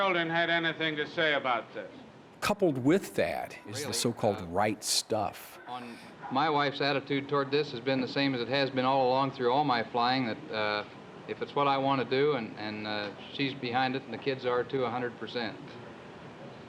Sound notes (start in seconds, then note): none